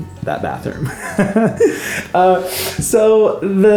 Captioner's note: laughing